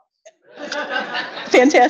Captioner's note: audience laughs